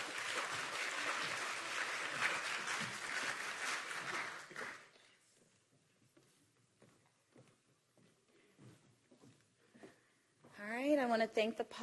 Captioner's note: applause